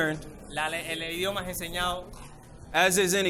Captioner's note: interpreter speaking in foreign language